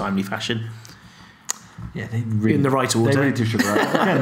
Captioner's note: laughing